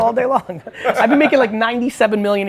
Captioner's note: laughs